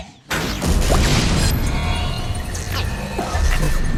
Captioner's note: loud whooshing